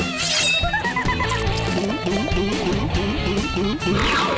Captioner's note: energetic music; gulping